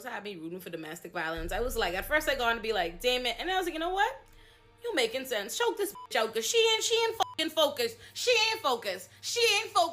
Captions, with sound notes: rooting for domestic violence. I was like, at first I go on to be like, damn it, and I was like, you know what? You're making sense. Show this (beep) She ain't, she ain't hecking focused. She ain't focused. She ain't focused.